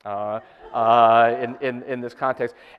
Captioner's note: audience laughter